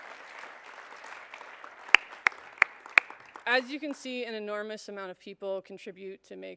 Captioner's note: applause